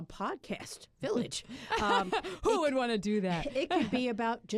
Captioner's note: laughter